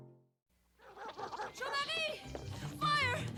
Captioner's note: dogs barking